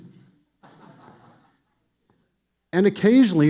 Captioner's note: audience laughing